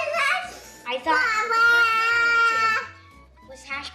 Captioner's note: kid's babbling drowns out